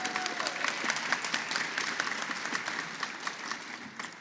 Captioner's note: applause